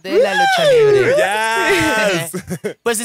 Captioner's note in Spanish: Gritos de celebración